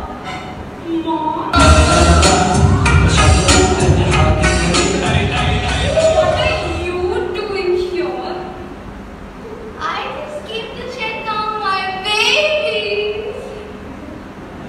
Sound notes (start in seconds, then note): 10.8 sarcastic tone